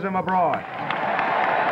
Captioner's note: applause